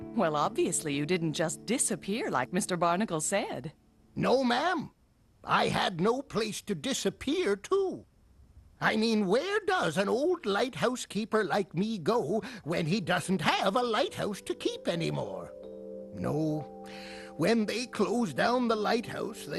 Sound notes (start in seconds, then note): none